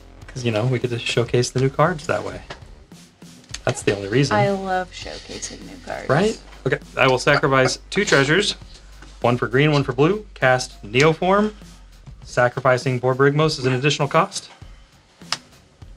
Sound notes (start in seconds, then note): 4.2 impishly; 5.8 sarcasm